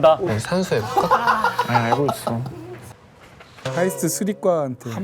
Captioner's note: laments / Sighs